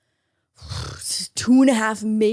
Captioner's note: sighs exaggeratingly